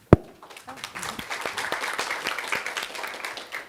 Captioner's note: applause